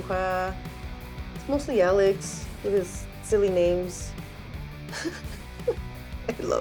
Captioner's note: laughs